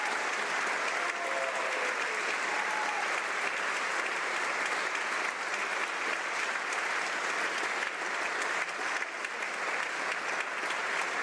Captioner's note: applause